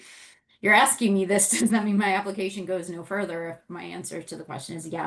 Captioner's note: laughs